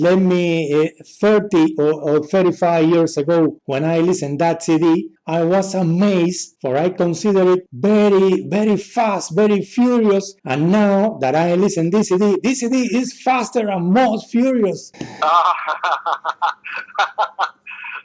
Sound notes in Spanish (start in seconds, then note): 15.0 se ríe